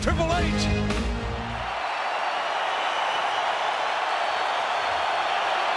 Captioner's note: audience cheering